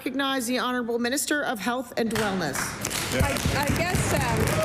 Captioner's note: applause